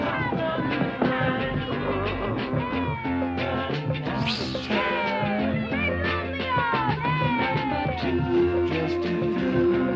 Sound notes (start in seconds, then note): 0.1 kids cheering; 1.9 Arrow growls; 4.1 kids cheering